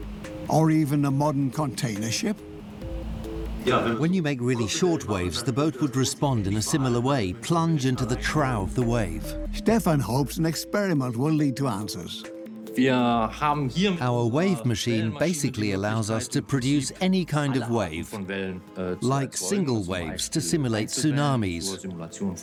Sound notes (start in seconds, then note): 12.6 in German; 14.5 dubbed in English